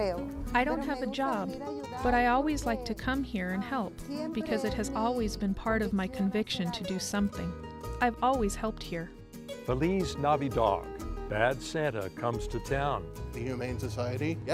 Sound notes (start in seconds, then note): 9.1 in foreign language